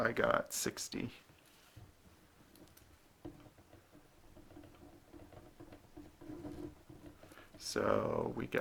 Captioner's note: writing